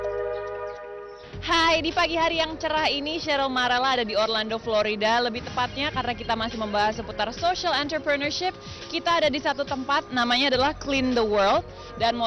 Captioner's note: non-english speech